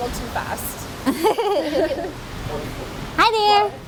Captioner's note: giggle